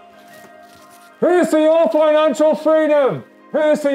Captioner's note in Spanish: Gritando